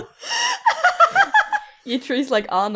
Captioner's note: Alyssa continues to laugh; everyone laughs